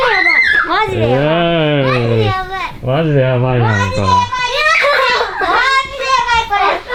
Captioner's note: laughs